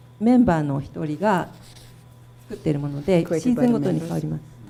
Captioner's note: speaking foreign language